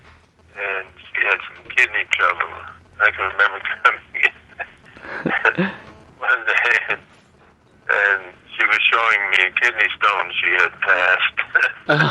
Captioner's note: laughter